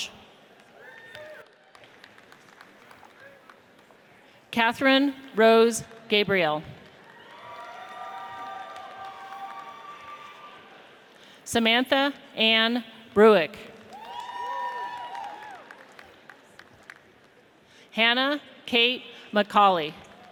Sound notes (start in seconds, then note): 1.0 audience applauds; 7.1 audience cheers; 13.9 audience cheers